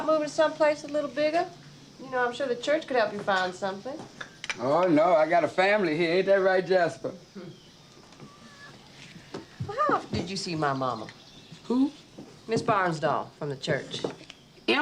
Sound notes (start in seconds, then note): 7.3 cats mewing